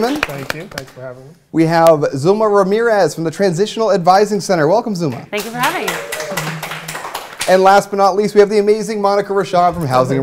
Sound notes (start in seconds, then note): 0.0 applause; 7.1 applause